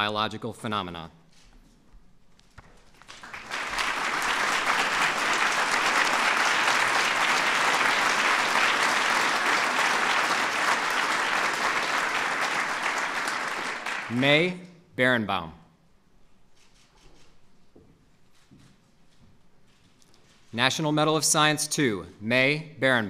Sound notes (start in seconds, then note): 6.3 applause